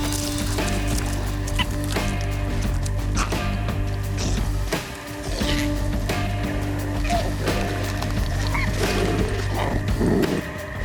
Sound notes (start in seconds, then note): 1.2 koala yelps; 3.2 growls; 6.9 growls aggressively